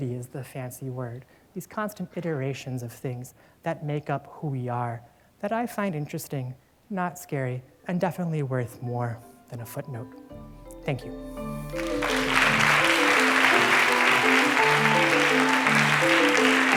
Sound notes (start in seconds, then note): 11.7 applause